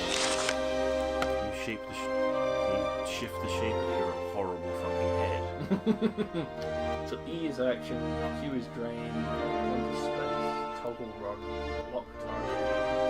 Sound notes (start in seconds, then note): 5.5 laughs